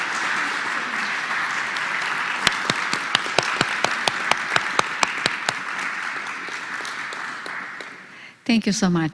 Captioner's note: applause